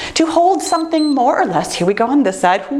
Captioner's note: timer beeps